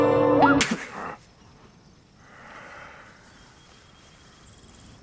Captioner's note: Sasquatches whooping; Sasquatch grunting